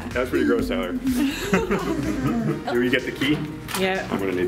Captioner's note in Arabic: كل الضحك